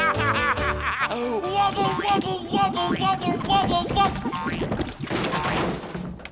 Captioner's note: laughing